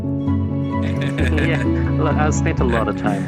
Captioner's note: laughing